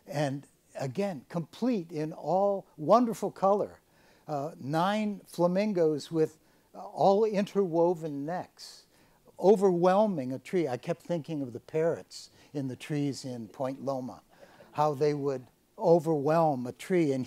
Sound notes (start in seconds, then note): none